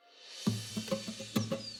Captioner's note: whoosh!